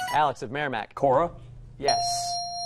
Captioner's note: ding